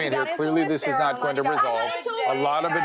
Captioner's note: girls arguing